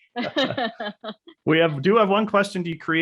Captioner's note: laughing